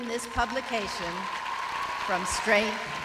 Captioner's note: applause